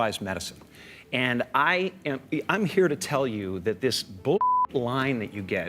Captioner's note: beep